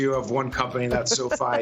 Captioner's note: laughter